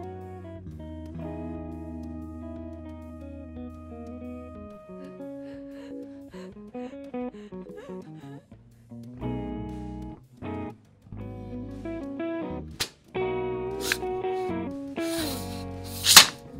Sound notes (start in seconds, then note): 5.1 gasping for air; 13.8 sword slice